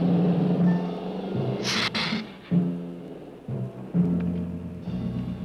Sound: Gila monster hissing

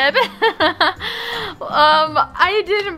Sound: laughs

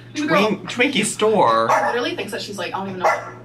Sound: dog barking

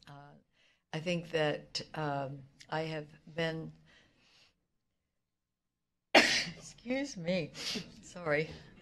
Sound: sneezes

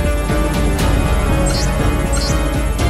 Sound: alphabet displayed sound

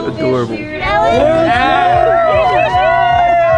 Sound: cheering

